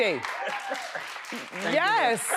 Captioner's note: laughs